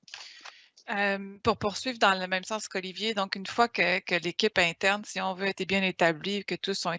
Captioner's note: speaking in foreign language